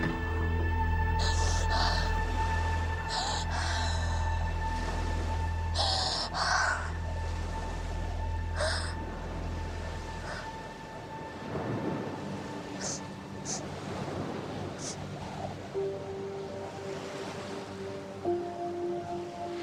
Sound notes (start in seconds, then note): 1.1 weeping